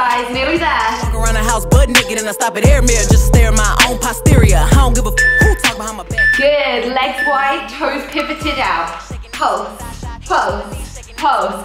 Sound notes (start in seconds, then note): 4.2 timer beeps